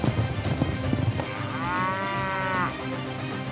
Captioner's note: mooing